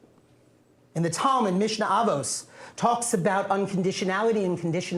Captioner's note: non-english speech